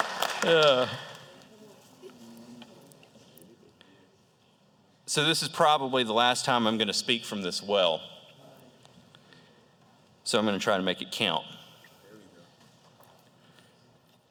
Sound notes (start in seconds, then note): 0.4 laughter; 1.7 applause